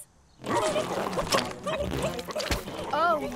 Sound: burbling

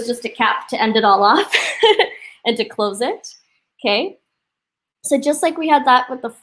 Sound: laughs

